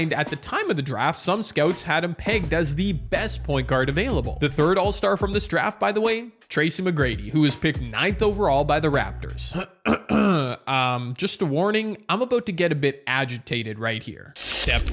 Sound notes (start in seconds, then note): 9.5 clears throat